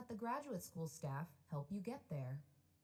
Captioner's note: none